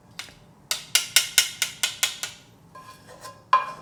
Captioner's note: spoon tapping